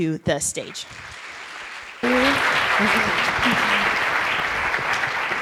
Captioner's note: audience applauds